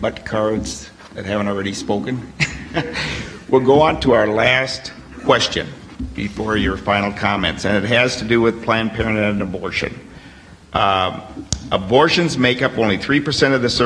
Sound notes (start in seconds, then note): 2.4 laughter